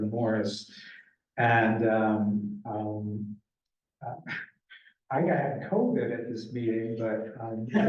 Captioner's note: laughs